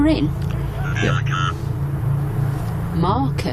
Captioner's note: Ovilus speaking